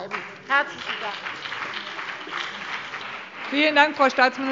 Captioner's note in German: Beifall BÜNDNIS 90/DIE GRÜNEN und vereinzelt CDU